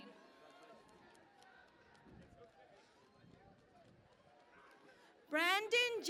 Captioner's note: cheering and Applause